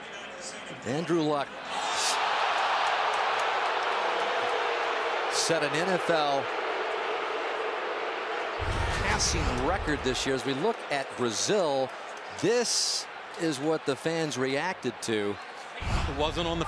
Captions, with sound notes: Andrew Luck-- [crowd clamoring, booing] --set an NFL passing record this year as we look at Brazill. This is what the fans reacted to.